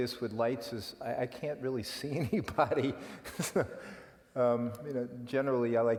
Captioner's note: laugh